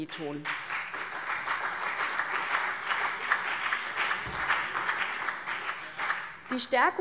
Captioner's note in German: Beifall CDU und BÜNDNIS 90/DIE GRÜNEN